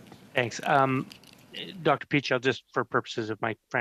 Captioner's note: speaking French